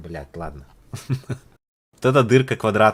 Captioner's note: laugh